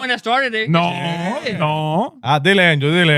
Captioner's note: speaking In Foreign Language